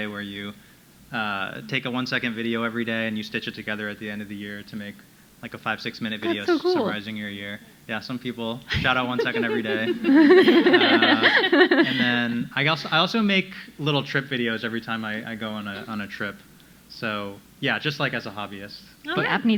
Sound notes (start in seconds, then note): 10.2 all laughing